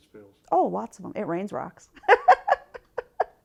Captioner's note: laughing